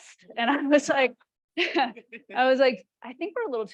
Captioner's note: chuckles